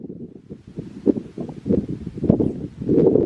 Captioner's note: windy